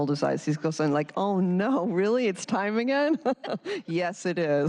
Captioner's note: laughter